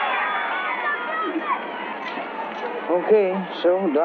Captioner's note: loud chattering